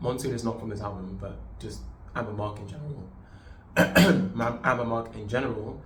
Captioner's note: cough